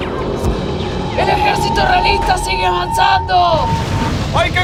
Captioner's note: spanish